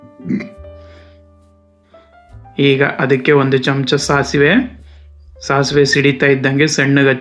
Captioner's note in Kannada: ಗಂಟಲು ಸರಿಮಾಡಿಕೊಳ್ಳುವಿಕೆ